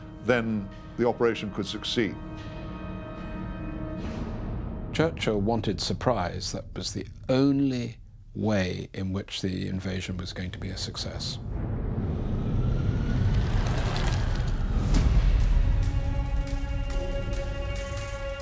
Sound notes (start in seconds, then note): 2.6 dramatic music; 14.7 police car's sound; 16.5 dramatic music